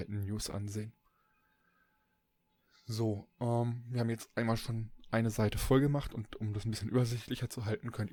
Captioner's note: ehm